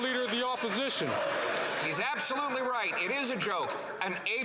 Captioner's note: some Applause